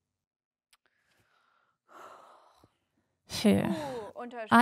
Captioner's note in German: sighs